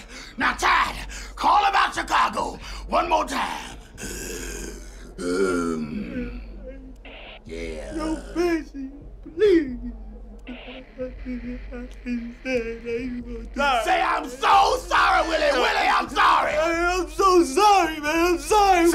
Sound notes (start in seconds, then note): 4.1 growls; 9.4 whimpering